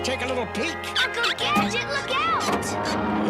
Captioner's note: chirps